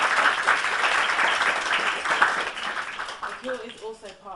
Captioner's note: audience applaud